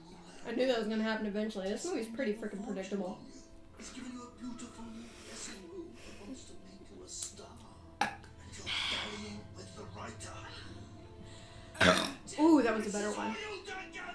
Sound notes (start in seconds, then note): 8.0 belches; 11.7 belches louder